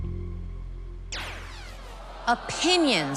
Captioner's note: zap